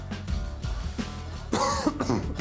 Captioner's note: coughs